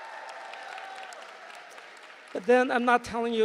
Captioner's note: applause